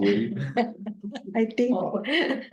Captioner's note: laughs